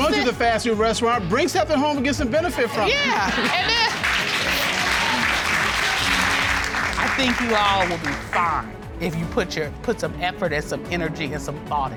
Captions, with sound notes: -Y'all said-- -Go to the fast food restaurant, bring something home and get some benefit from it. -Yeah. And then... -[applause] I think you all will be fine if you put your-- Put some effort and some energy,